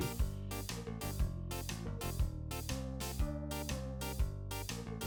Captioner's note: green alien says, “Doy-Dotta-Doh”